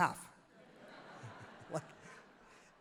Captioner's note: crowd laughs happily